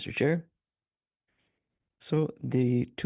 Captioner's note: speaking French